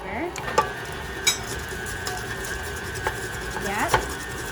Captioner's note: mixer whirring